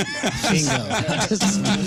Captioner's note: laughing